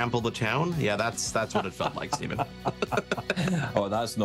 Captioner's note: laughing